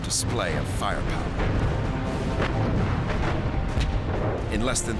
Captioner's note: gunfire